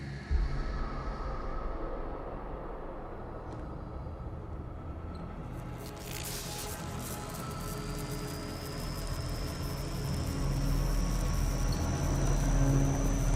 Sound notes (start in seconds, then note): 5.8 electricity crackling; 6.6 tense music